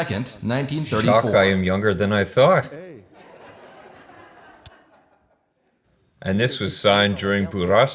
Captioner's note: laughs